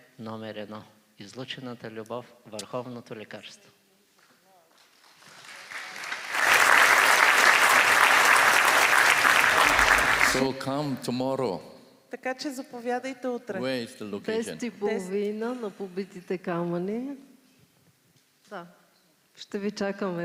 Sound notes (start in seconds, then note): 4.8 applause